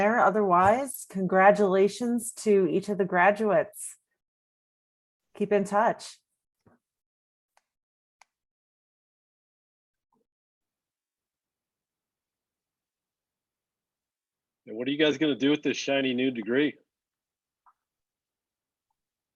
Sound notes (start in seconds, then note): none